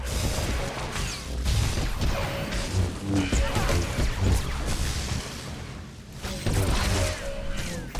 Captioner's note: gunshots